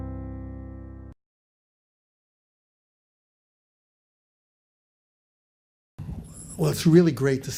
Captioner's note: silence